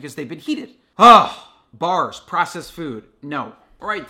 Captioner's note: sighs